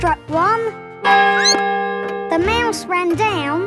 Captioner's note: squeaks; clock chimes